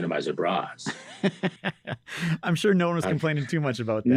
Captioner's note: laughs